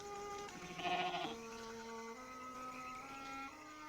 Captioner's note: sheep bleating